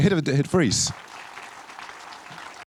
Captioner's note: audience applauding